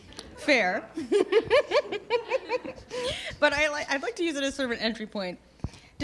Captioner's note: laughter